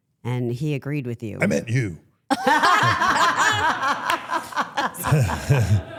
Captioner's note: everyone laughs